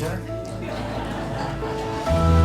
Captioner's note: laugh